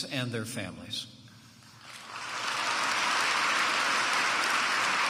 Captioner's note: applause